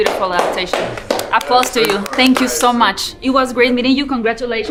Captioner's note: clapping; clapping continues